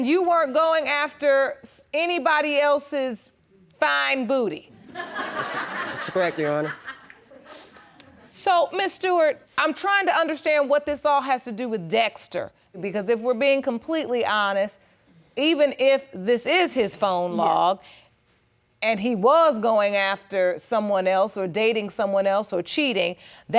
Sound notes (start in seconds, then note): 4.8 audience laughing